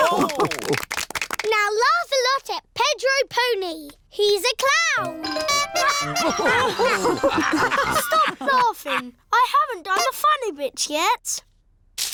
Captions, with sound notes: (ALL LAUGH) Now laugh a lot at Pedro Pony! He's a clown! -(TOOTS HORN) -(ALL LAUGH) Stop laughing. I haven't done the funny bits yet!